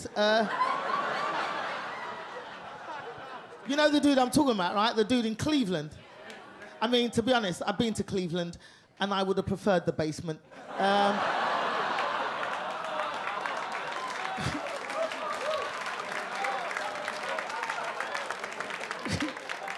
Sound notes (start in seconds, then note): 0.1 audience laugh; 10.5 audience laugh and clap